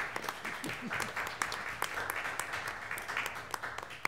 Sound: applause

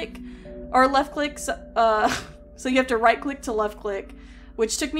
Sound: laughs

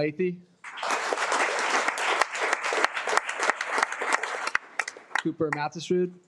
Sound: audience clapping

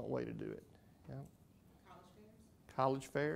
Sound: voiceover

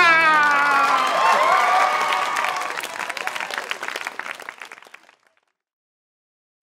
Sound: cheering

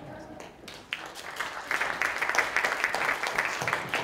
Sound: audience applauds

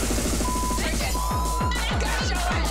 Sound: beeps

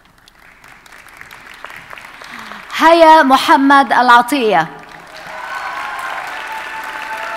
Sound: audience applauding

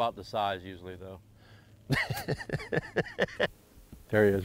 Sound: loud chuckling

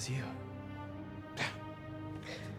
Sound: laugh

